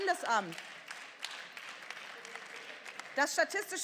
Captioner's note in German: Beifall